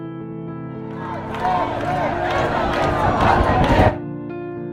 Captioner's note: people chanting